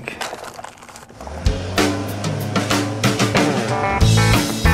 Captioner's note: boat motor running; lively music